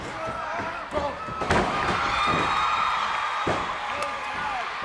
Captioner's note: Brutus yells